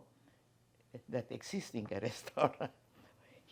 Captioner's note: laughing